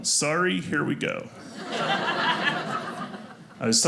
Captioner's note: audience laughing